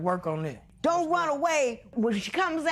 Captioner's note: none